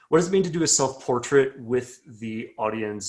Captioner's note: none